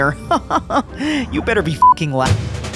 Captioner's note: Roji laughs; intense music